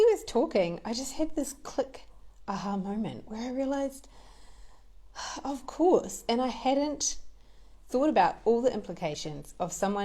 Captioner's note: exhales